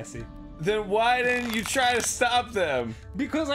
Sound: neck stretching sounds? idfk, man. I'm trying my best

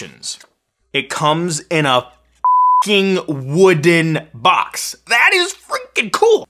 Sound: beep

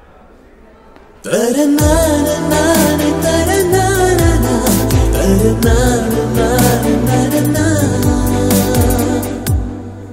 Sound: humming starts

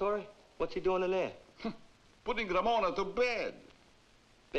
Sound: scoffs

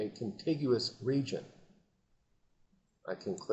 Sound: silence

